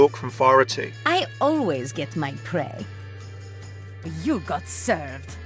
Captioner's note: voiceover